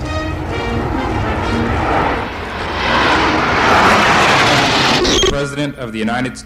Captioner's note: jet engines roaring